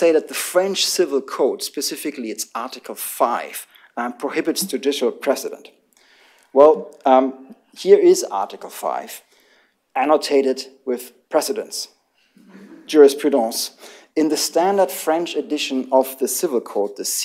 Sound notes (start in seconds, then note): 12.4 laughter